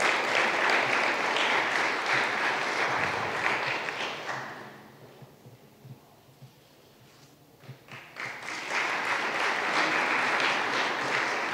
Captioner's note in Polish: oklaski